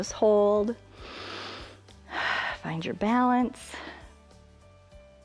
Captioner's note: inhales and exhales